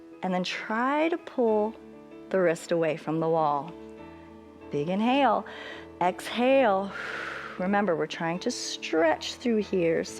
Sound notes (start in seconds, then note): 6.9 exhales; 6.9 inhales